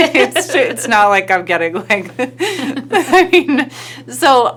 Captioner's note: giggling